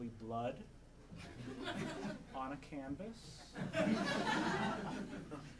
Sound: audience laughing

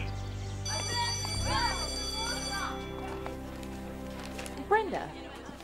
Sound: school bell rings

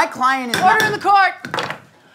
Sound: hitting mallet

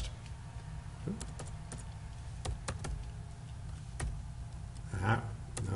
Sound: typing

